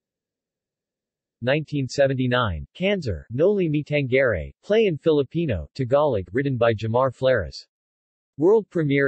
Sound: Tagalog

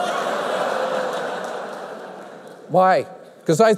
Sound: laughter

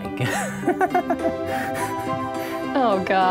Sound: laughs

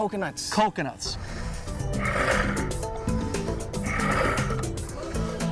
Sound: deep breaths

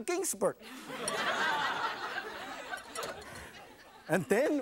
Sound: audience laughs

